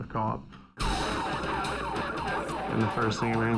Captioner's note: police siren